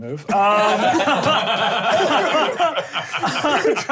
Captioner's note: laughing